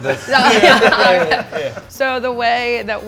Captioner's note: all laughing